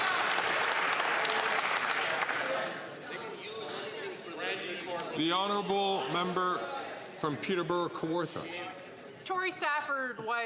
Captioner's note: some Applause